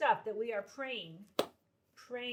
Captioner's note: hands clap